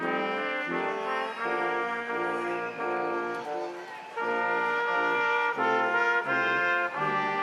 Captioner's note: instrumental music continues; crowd applauding